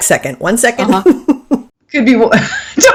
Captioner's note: laughing